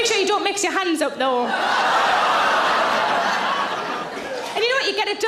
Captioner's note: audience laughs